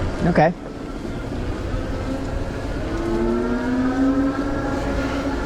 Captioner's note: engine roaring